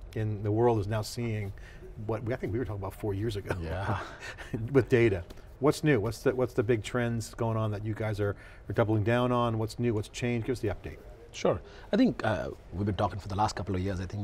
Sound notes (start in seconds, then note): 3.4 giggles